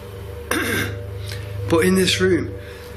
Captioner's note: clears throat